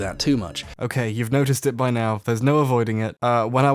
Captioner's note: voiceover, trying not to laugh